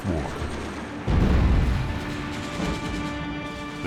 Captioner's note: explosions pounding